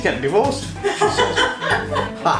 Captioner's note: laughs